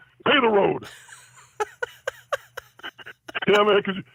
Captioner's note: laughs